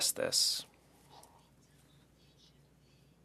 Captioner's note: speaking French